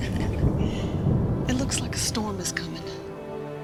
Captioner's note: thunder rumbles